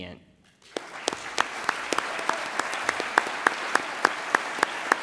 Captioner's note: audience applauds